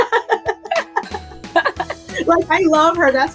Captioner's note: laughing; laughs